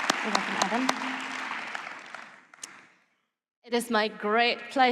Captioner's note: applause